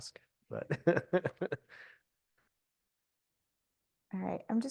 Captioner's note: laughter